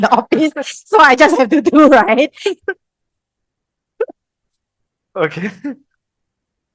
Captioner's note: laughters